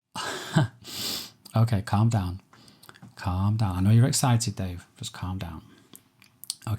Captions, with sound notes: (laughing) - Okay, calm down. Calm down, I know you're excited Dave, just calm down.